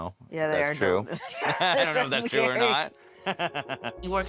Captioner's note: laughs